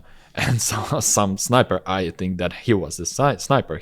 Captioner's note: laughs